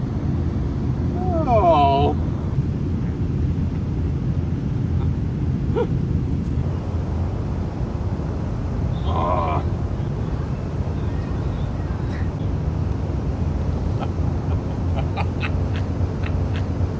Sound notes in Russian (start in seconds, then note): 13.6 смех